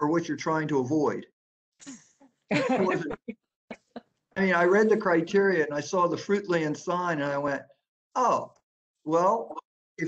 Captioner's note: laughter